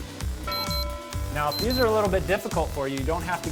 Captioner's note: beep sound